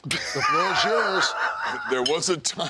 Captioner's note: DDP laughs